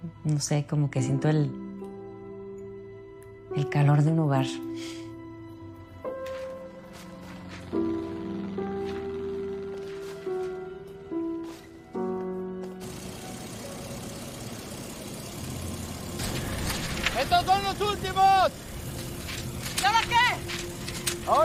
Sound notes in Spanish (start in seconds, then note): 7.3 Ruido de un motor